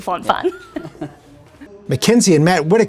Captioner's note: both laughs